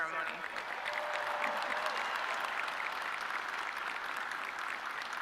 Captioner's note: audience clapping